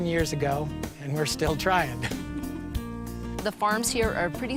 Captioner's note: laughs